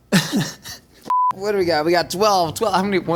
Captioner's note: laughing; tone beeping